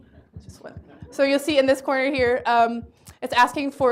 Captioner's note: laughter